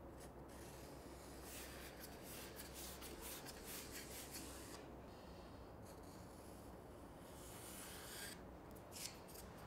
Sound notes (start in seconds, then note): 0.9 marker rubbing